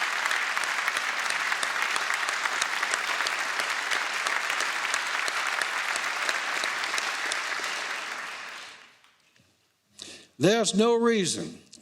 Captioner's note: applause